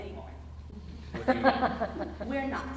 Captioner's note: audience laughing